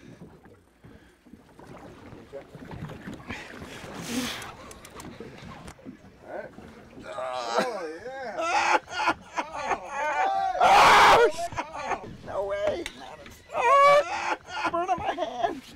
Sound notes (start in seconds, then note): 10.7 straining; 13.5 laughing